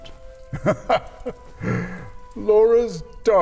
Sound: chuckles

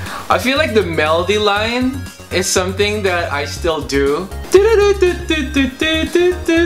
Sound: humming

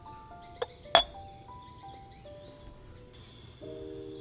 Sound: glass clinks

